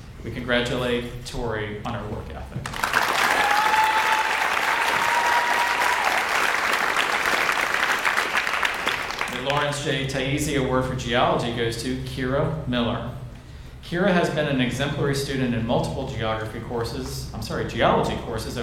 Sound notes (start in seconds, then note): 2.7 audience cheers and applauds